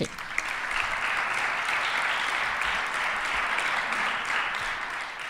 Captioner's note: applause